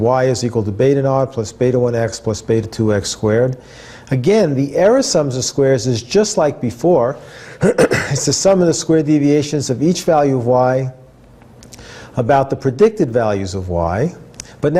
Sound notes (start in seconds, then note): 7.6 cough